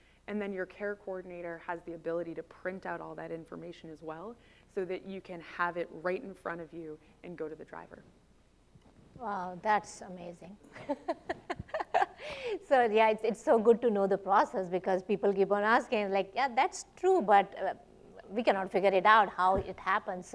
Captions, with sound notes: And then your care coordinator has the ability to print out all that information as well, so that you can have it right in front of you and go to the driver. Wow. That's amazing. [laughs]. So, yeah, it's so good to know the process because people keep on asking like, "Yeah, that's true, but we cannot figure it out how it happens."